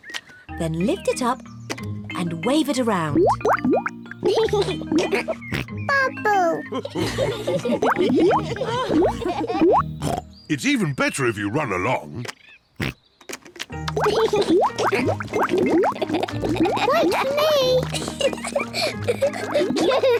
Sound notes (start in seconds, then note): 3.8 laughs and snorts; 6.6 all laugh; 9.9 oinks; 12.4 oinks; 14.0 laughs; 18.4 both laugh